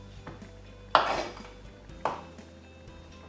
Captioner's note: knife scrapes